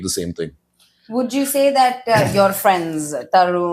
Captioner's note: laughs